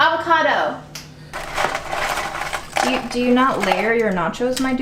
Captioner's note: rattling sound